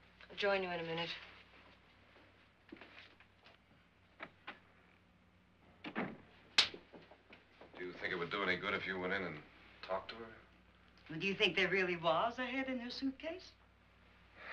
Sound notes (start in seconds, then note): 5.8 door closes